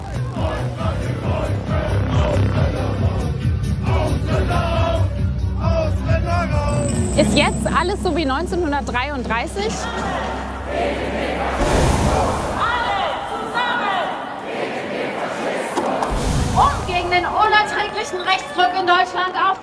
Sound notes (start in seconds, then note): 12.8 chanting